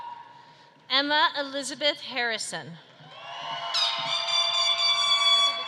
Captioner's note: horn blowing